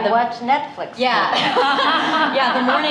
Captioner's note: laughter